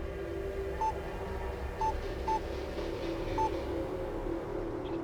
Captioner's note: phone beeping